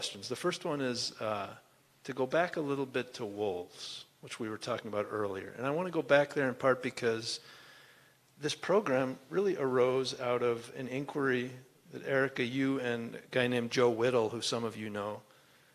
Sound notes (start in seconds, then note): none